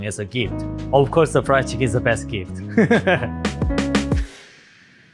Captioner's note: laughs